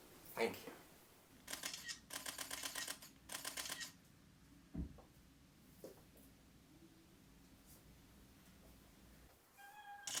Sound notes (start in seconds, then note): 1.8 camera shutters and flashes; 9.5 happy cheer at a successful speech